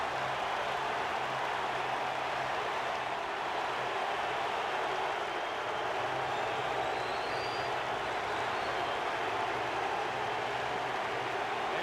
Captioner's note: applause; cheering and Applause